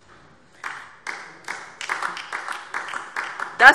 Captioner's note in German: Beifall DIE LINKE